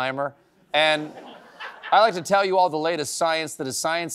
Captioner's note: laughter